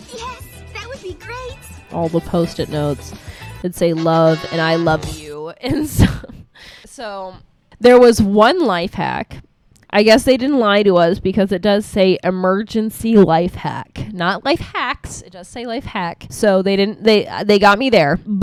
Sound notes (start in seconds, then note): 4.5 laughs